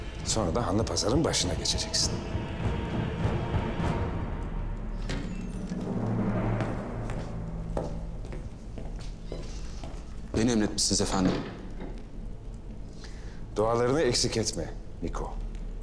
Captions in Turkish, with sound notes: Sonra da Hanlı Pazar'ın başına geçeceksin. (Kapı açılma sesi) Beni emretmişsiniz efendim. Dualarını eksik etme Niko.